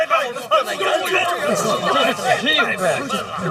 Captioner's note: wild dogs barking